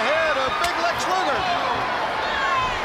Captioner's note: crowd chatter